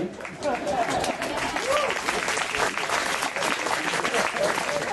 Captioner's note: applause